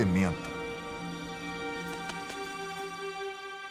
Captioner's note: butterfly flapping wings